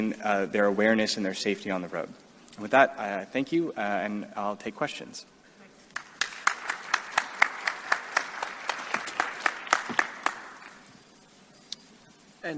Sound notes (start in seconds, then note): 5.9 audience claps